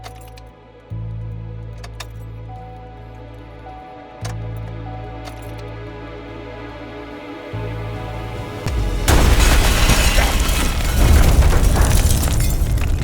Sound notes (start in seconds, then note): 8.6 explosion booms